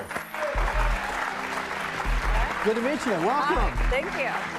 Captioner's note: applause